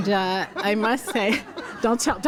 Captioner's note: laughter